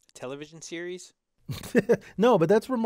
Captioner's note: laugh